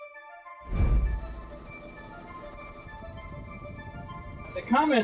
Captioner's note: light music; helicopter engine rumbling